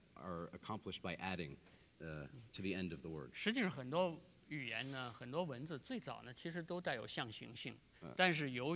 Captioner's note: speaking in Chinese